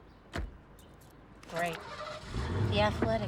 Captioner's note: engine starts